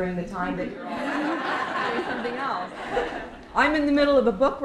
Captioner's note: laughter